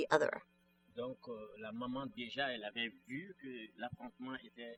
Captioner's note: speaking french